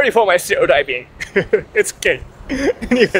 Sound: laughs

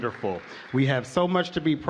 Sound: applause

